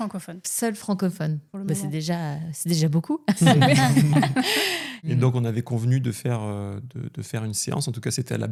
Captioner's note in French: rires